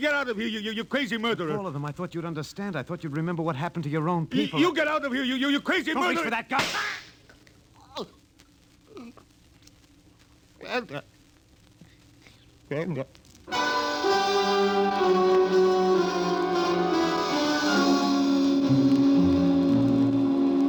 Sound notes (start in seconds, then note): 10.1 grunting; 13.5 dramatic music